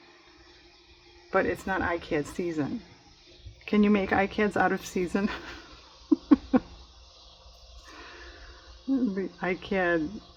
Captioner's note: laughs